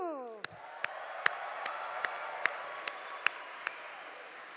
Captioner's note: audience applauding